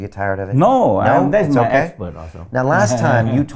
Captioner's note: laughs